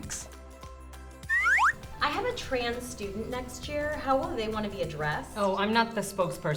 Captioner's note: slide whistle up